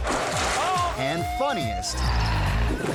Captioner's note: lively music; silo crashing; man screaming; bike revving